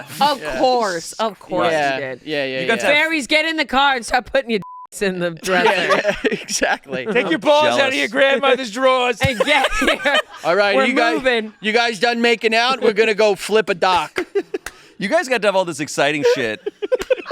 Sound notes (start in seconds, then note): 4.6 beep